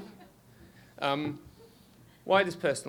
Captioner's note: scattered laughter